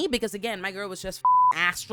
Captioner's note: beep